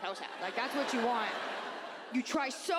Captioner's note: audience laughs